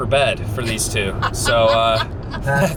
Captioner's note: laughing